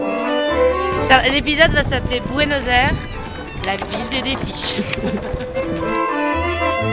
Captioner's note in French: rires